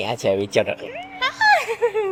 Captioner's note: pig squeal sound